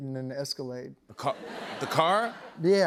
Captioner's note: laughter